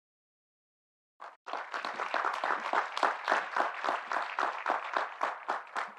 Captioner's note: audience applauding